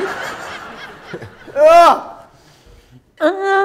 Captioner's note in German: schreit